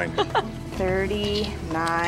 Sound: laughing

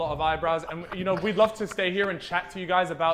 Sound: Sidemen laughing

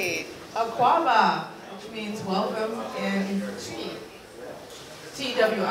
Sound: non-english

